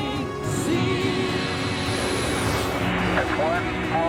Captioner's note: jet takeoff